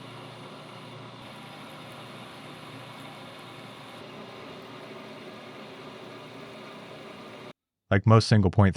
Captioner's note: machine whirring